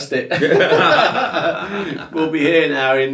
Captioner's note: both laugh